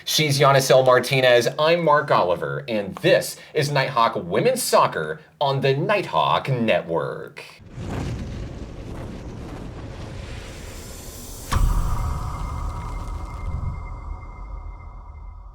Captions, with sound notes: She's Yanisel Martinez, I'm Mark Oliver, and this is Nighthawk women's soccer on the Nighthawk Network. (wings flap) (ethereal electronic music)